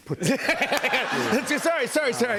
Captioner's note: laughter